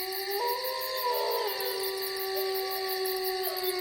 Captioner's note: wolf howling